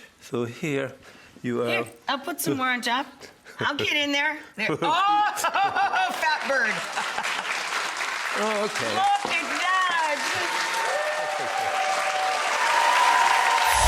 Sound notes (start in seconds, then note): 4.8 Jacques laughs; 4.8 exclaims; 6.2 audience applauds; 6.7 laughs; 10.2 audience cheers